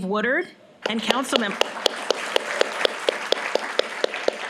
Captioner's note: applause